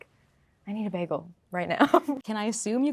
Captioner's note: laughing